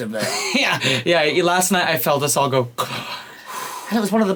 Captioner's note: exhales